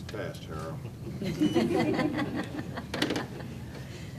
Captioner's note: laughter